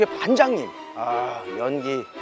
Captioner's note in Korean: 감탄